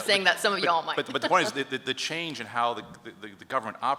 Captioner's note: laughs